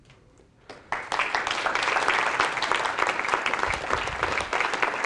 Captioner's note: applause